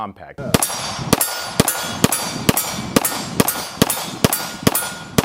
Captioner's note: gun shots